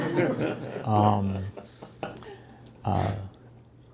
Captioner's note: chuckling